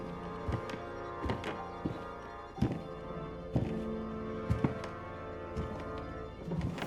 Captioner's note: footsteps continue